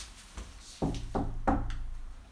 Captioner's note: knocking on door